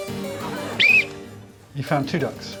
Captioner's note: Alex whistles